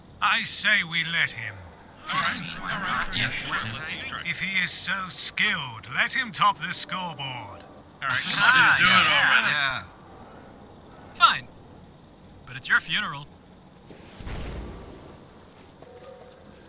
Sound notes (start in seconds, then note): 1.9 general agreement; 8.0 enthused jeering